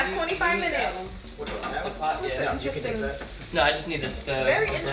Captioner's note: all murmuring